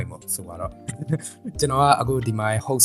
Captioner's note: nervous laughs